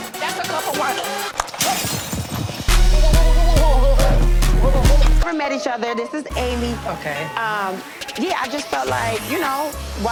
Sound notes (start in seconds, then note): 0.1 intense hip-hop music; 1.4 glass shattering; 1.6 text clicking; 6.4 tense hip-hop music